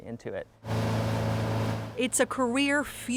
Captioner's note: motor rumbling